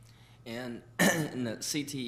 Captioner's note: clearing throat